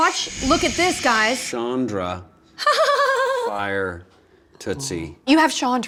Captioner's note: laughs smugly